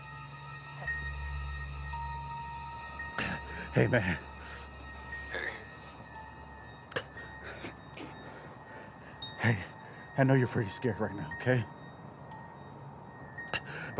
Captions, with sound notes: (Josh groaning) - Hey, man. - Hey. (groans) Hey, I know you're pretty scared right now. Okay?